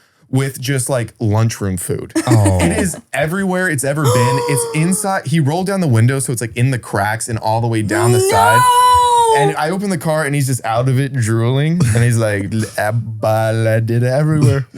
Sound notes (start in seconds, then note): 4.0 gasps